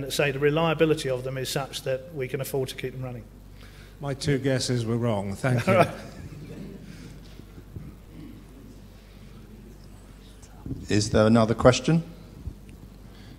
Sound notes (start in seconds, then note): 5.5 laugh